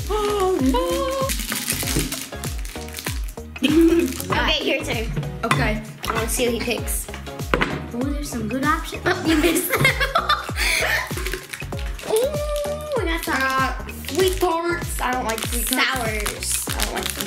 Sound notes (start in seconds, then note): 0.1 happy music; 9.0 laughing